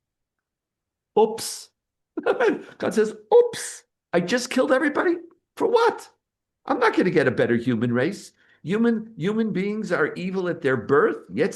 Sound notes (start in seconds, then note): 2.2 laughing